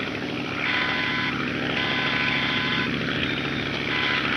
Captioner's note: alarm blaring